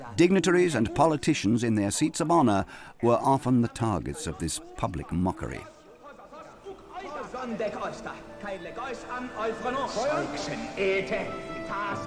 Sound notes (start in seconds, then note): 6.5 dramatic music; 6.5 men speaking in Greek